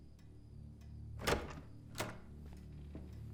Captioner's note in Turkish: Kapı açılma sesi